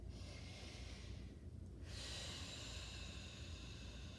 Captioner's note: breathing deeply